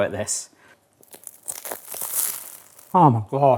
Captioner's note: baguette crunching